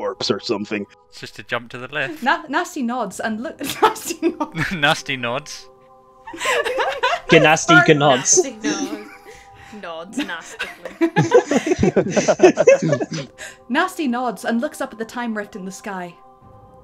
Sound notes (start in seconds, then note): 3.6 laughs; 6.2 laughter